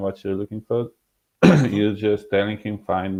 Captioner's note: coughing